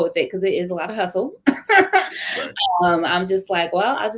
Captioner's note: laughter